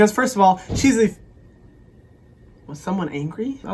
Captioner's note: door slam